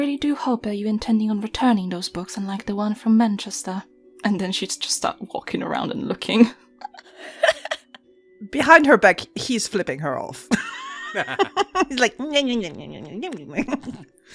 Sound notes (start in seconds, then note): 10.5 laughter